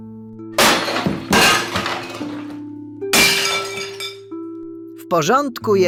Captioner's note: distant bang, glass breaking